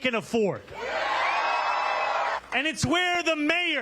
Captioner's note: cheers and applause